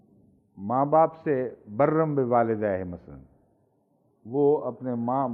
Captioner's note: Arabic